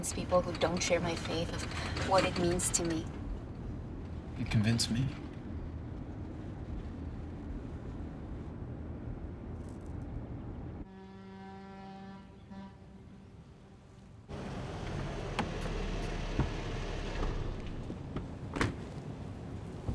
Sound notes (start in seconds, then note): 10.8 boat horn blowing